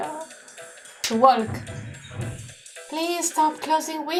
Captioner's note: window closes loudly outside